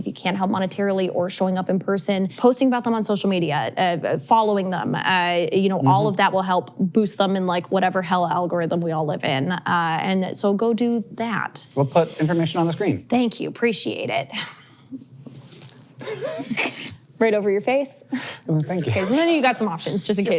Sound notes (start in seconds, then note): 16.0 chuckles